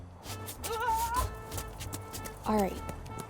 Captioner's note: yells in fear